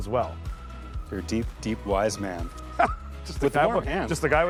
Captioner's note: chuckles